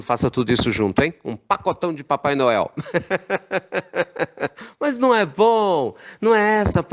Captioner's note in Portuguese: risos